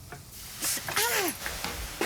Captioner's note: Mandy cries